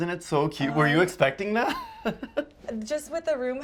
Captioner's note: laughs